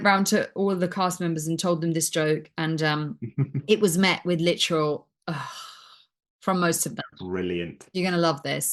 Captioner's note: groan noises